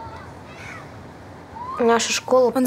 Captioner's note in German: Kinderstimmen